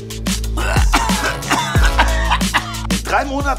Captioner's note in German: würgen, husten